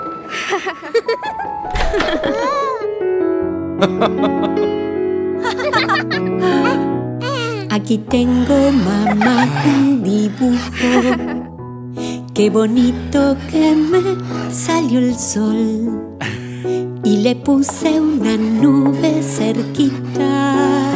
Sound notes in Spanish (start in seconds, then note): 0.2 Risas; 5.4 Risas